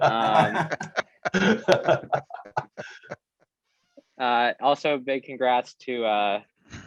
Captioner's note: laugh